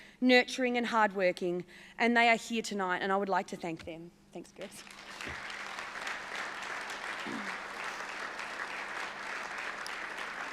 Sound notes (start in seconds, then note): 4.7 applause